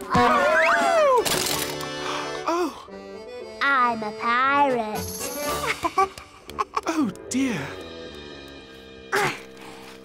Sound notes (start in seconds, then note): 6.3 giggles